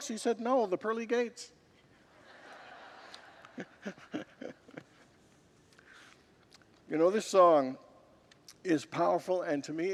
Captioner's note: congregants laugh